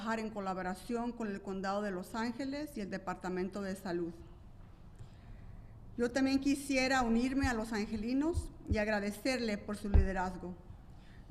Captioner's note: speaking spanish